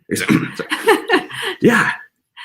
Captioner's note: laughing